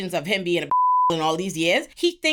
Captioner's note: beep